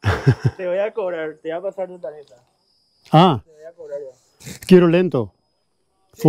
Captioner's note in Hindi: स्पेनिश में बोलना